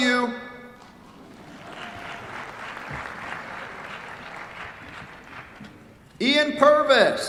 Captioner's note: applause